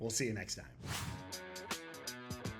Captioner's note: screen whooshing; rock music